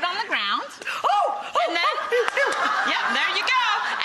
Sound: gasps

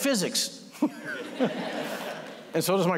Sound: laughter

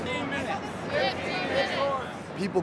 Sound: crowd repeats

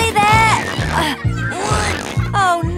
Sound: grunting

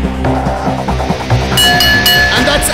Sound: bell rings

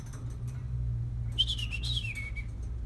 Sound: my dad whistles

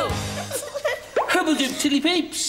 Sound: giggling

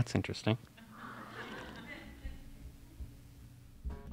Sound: laughter

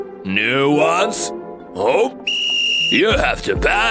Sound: whistles

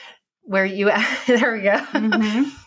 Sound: laughing

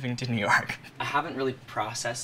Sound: laughs

